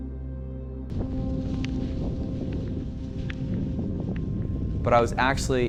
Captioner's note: sound of wind and skis